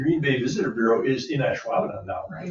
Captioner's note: members chuckling